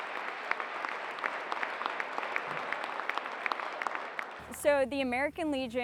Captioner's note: applause